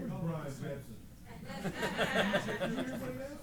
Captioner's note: laughter